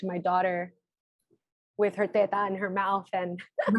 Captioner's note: speaking foreign language